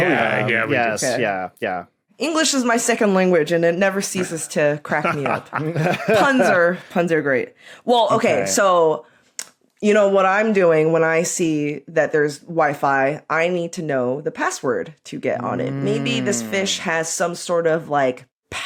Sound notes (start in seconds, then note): 4.9 laugh